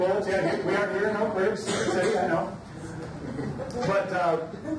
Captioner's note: laughter drowns out speaker; overlapping chatter